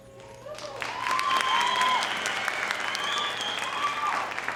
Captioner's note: audience applauding